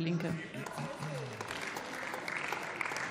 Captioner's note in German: Beifall